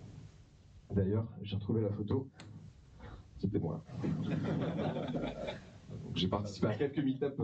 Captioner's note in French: rires